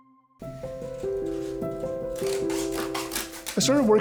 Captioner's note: lively music; scissors cutting